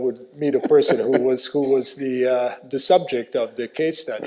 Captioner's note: chuckles